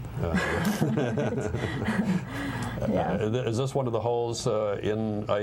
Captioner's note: laughter